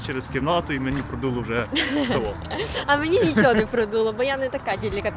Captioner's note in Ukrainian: сміх